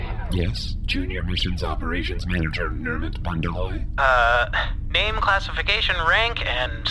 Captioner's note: chuckle